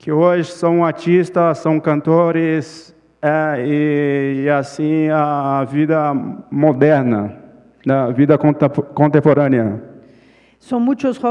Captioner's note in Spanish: Ponente habla en portugués